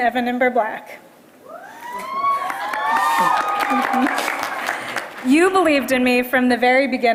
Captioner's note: applause